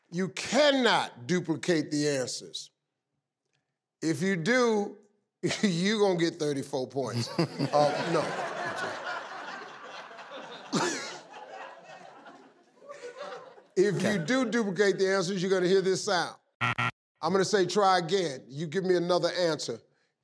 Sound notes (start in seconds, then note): 7.1 laughs; 16.6 buzzer dings